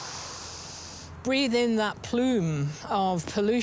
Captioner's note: sniffs deeply